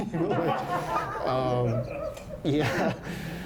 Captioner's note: laughter